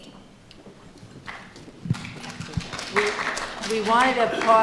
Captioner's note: audience applauding